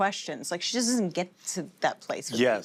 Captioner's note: none